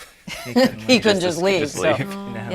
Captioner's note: laughing